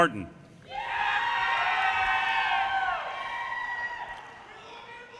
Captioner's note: audience cheers and applause